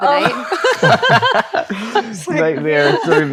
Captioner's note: all laughing